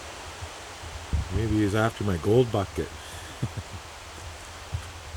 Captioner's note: ha ha